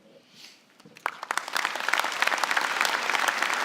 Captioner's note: applause